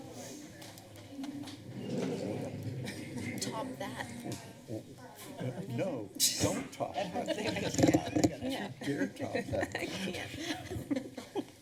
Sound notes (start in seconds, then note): 3.5 chatter; 7.0 laughter